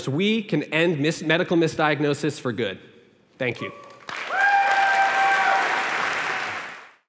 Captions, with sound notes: we can end medical misdiagnosis for good. Thank you. [APPLAUSE]